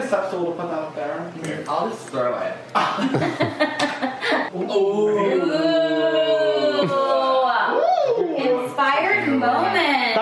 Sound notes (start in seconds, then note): 2.6 laughing